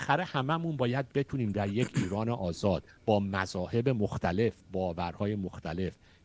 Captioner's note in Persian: گلویش را صاف می‌کند